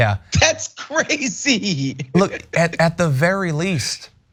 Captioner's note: laugh